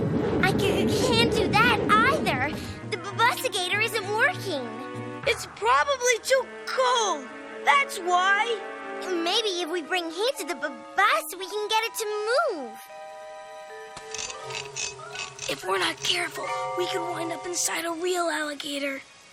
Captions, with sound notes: - I C-C-CAN'T DO THAT EITHER. THE BUS-IGATOR ISN'T WORKING. - IT'S PROBABLY TOO COLD. THAT'S WHY. - MAYBE IF WE BRING HEAT TO THE B-B-BUS, WE CAN GET IT TO MOVE. [metal ratcheting] - [whispering] IF WE'RE NOT CAREFUL, WE COULD WIND UP INSIDE A REAL ALLIGATOR.